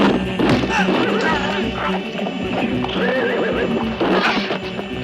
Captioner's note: horse whinnying